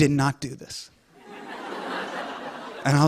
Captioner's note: laughter